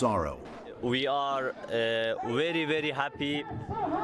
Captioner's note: through translator